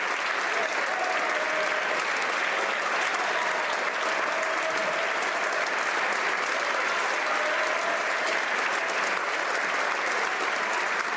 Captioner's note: applause